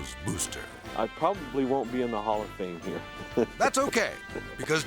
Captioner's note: laughs